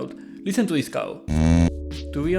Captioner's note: sound of cow